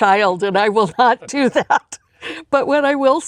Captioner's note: laughs